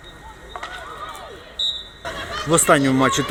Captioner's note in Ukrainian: свисток